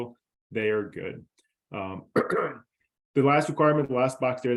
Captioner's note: coughs